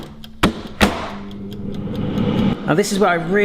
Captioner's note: air fryers hums